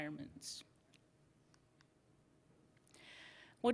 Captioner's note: silence